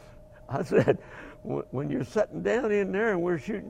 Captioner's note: laughing